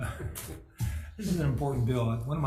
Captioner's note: laughs